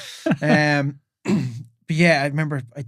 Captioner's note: both laughing